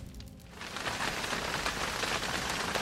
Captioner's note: raining